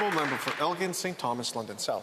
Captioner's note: some Applause